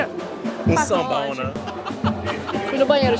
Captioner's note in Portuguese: risos